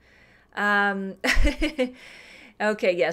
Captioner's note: laughs